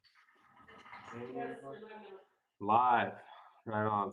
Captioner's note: people talking